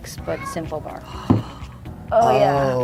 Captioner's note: gasps